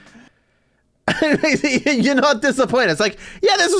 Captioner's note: laughing